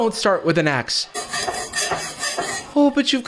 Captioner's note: knife scraping